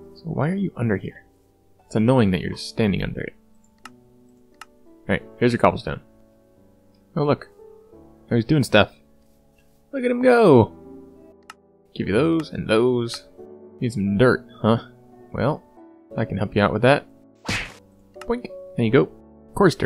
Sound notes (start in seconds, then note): 17.4 smack